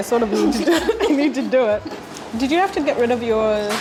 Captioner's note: women chuckle